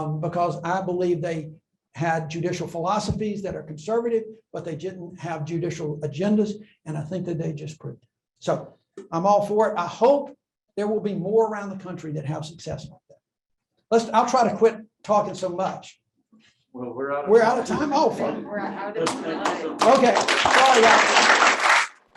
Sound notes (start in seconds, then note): 19.4 applause